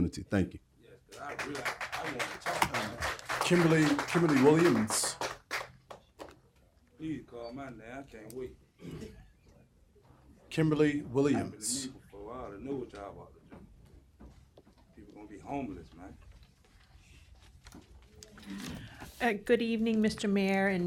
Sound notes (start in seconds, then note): 5.4 applause